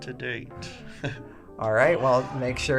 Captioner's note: laughs